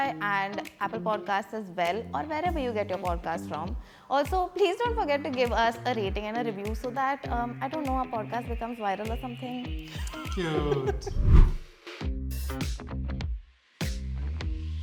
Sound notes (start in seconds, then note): 10.0 laughs; 11.0 screen whooshes; 12.2 upbeat music